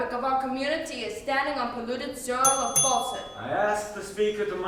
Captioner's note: bell rings